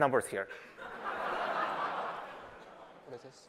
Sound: laughter

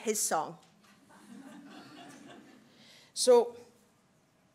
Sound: laughter from audience

